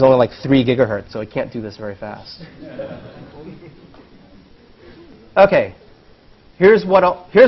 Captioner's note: laugh